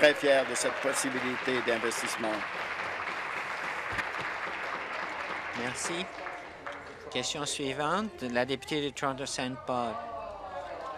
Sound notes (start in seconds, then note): 3.1 applause